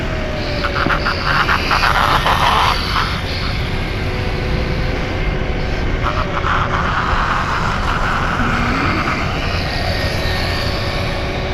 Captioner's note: electric motor screaming